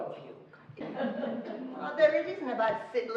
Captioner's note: laughing